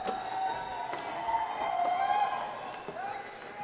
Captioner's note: crowd cheering